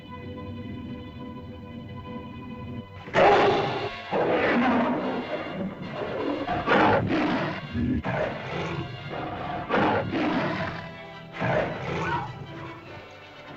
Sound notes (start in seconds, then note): 0.2 tense music; 3.1 lizard bellows; 3.1 suspenseful music; 11.3 lizard bellows; 11.4 cavepeople yelp